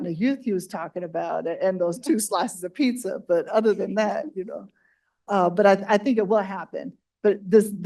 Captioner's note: laughs